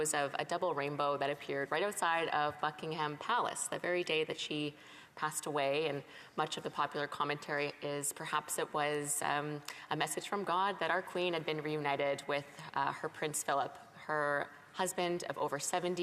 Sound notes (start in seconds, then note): none